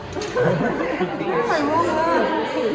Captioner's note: giggles